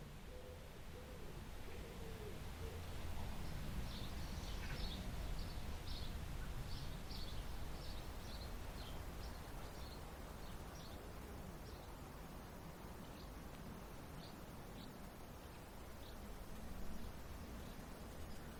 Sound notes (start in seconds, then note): 2.1 birds chirping; 2.1 water susurrating